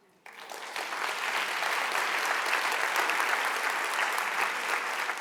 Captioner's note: audience applauding